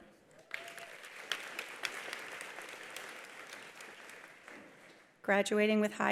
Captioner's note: attendees applauding; attendee cheering